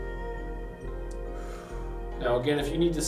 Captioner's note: inhales; exhales